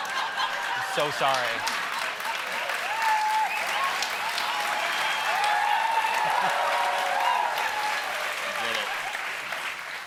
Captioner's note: applause; cheers